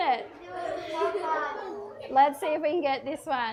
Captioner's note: children giggle